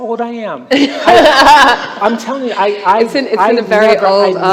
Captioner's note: laughter